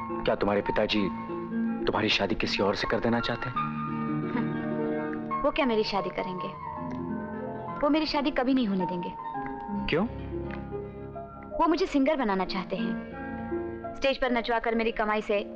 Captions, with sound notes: Does your father want you to marry someone else? (Chuckles) What will he get me married? He will never allow me to get married. - Why? He wants to make me a singer. He wants to live happily with my income...